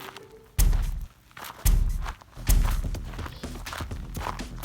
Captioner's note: hits tree; gentle upbeat music